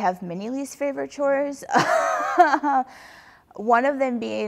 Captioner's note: laughs